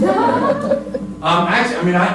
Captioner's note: laughter